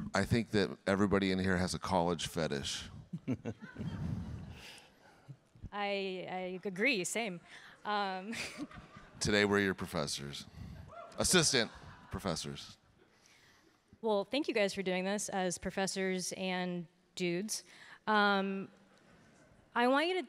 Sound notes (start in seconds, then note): 3.1 chuckling; 3.2 audience laughing